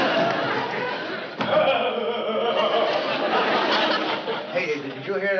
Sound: laughs

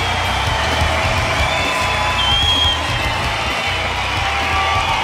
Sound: crowd cheering

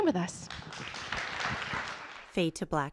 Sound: audience applause

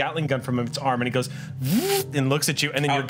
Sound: whirs

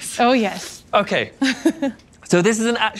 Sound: laughs

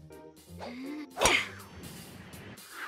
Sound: grunting

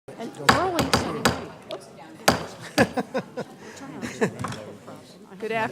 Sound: gavel

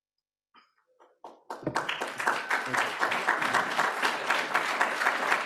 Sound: applause

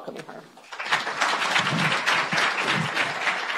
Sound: applause

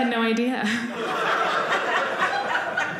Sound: audience laughing

